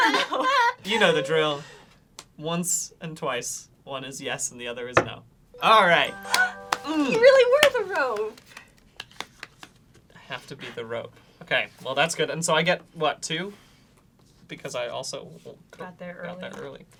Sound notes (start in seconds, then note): 5.3 knocks once; 5.5 chiming